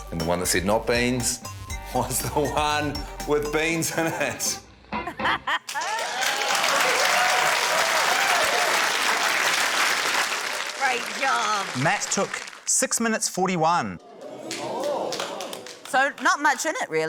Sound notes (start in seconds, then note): 5.0 laughs; 5.6 cheering, applause; 14.2 audience exclaims, scattered applause